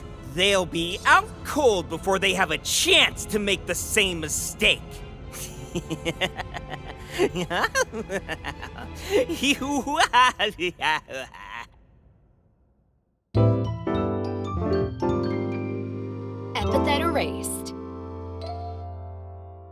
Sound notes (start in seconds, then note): 5.3 evil laughter; 9.1 stupid clown laughter